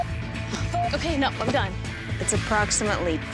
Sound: beep

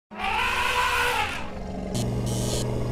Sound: elephant trump noise

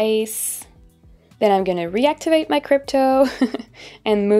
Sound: chuckling

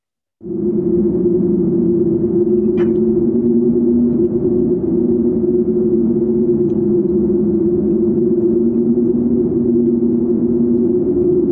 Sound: ominous wind

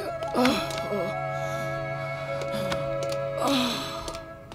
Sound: moaning

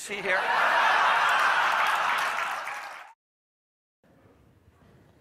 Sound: audience laughing

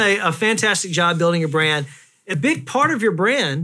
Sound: none

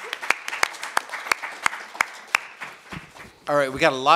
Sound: applauds

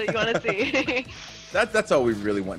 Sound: laugh

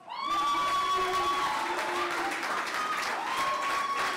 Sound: clapping

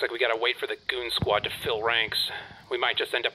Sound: sighs

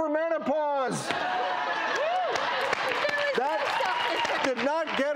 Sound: audience laughs, applauds

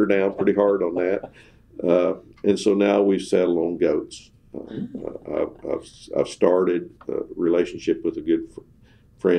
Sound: laughter

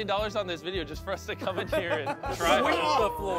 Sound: laughs

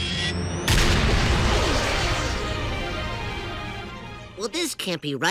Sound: whirring

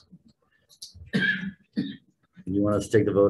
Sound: man coughing

